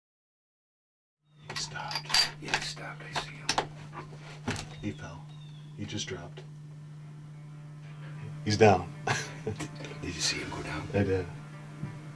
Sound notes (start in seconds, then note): 2.0 whispering; 9.0 chuckling